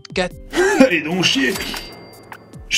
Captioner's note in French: bruit de caisse enregistreuse